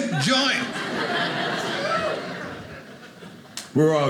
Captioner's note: audience laughing